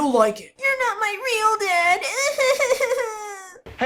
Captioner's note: fake crying